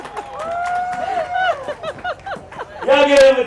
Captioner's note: laughing; crowd cheering